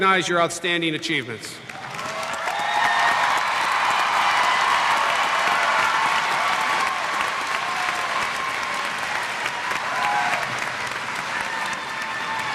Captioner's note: cheers